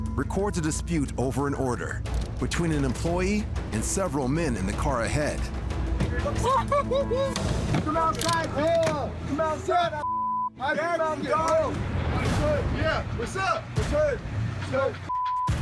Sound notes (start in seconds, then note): 6.4 laughter